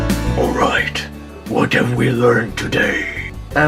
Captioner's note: hoarse deep voice